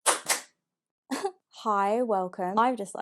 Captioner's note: clapping